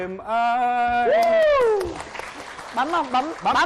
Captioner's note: applause